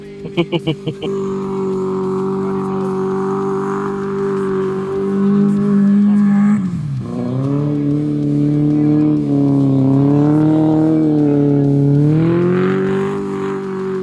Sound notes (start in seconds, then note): 4.5 laughing; 5.3 engine revving